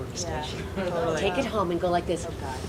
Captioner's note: audience laughing nervously